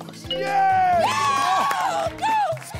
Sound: cheers

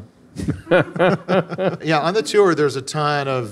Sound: laughing

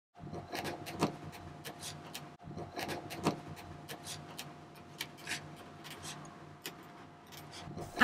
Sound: quill scratching

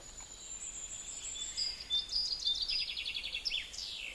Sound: birds chirping

